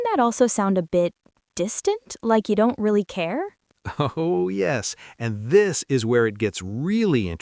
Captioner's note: laughs